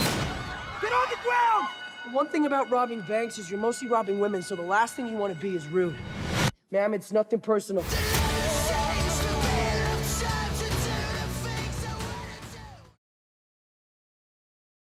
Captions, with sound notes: (people screaming) - Get on the ground! (alarm bell ringing) One thing about robbing banks is you're mostly robbing women, so the last thing you want to be is rude. Ma'am it's nothing personal. (upbeat music)